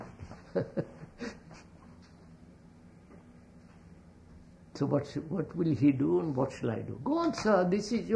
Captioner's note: laughs